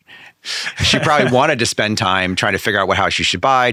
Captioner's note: laughing